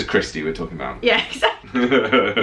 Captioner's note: laughing